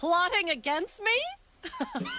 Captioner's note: laughing